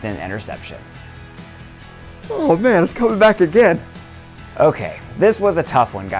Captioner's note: yawn